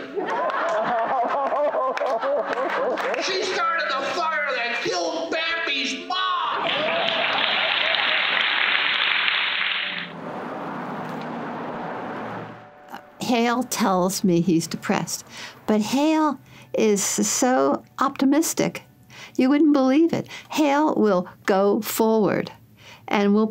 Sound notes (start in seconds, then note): 0.0 laughing; 6.6 crowd clapping